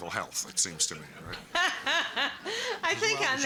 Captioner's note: laughter